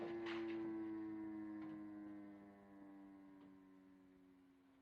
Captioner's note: siren Fades